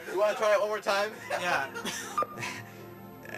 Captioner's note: laughing